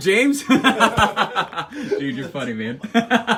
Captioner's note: laughs